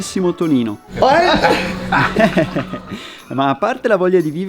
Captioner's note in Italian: risate